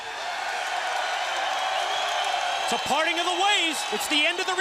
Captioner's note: crowd cheering